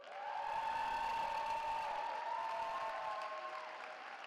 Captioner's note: cheering